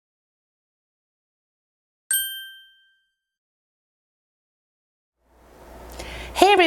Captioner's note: ding